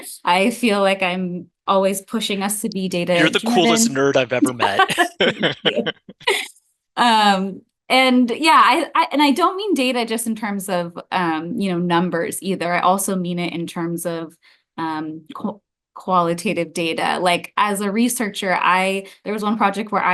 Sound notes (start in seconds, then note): 4.8 laughter